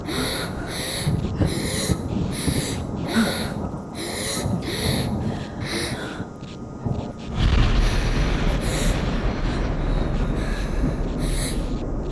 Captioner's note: breathes heavily